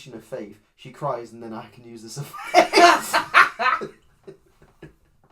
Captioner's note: laughs; cackles